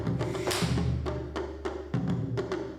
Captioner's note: thumps